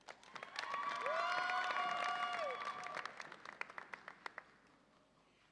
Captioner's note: audience applauds and cheers